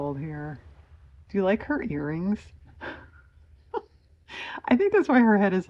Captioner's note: laughs